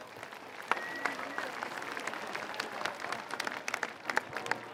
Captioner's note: applause